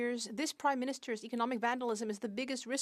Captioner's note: speaking French